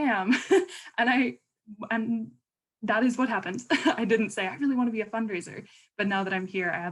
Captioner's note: laughter